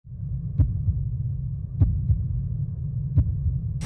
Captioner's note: heartbeats